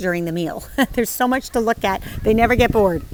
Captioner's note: chuckles